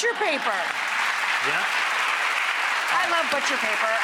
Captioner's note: audience clapping